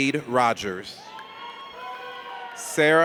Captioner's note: audience cheers